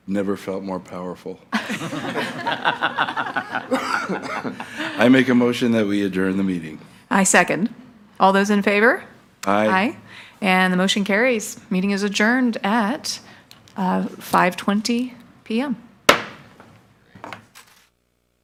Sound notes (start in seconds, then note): 1.6 attendees laugh